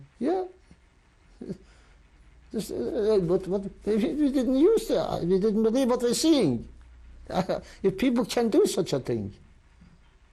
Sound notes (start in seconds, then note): 1.5 sighs